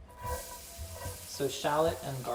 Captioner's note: pan sizzling gently